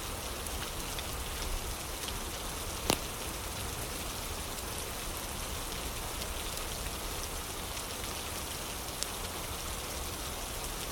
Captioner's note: fire crackling; fire crackling; fire crackling